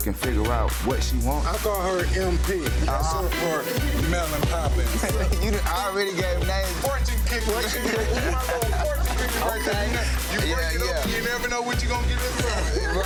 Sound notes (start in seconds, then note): 5.2 people laughing; 7.7 people speaking indistinct; 9.7 intense thumping music